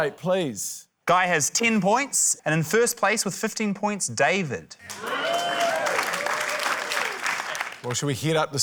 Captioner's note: cheering, applause